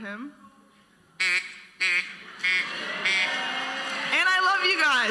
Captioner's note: duck call sounds